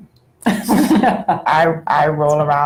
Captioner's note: laughter